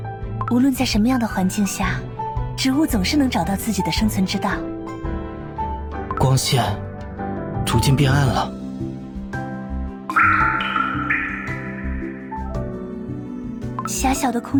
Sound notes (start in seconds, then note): 10.1 echo